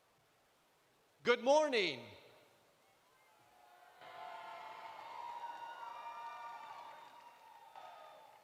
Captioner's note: cheering